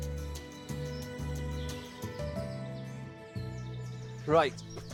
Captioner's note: birds chirping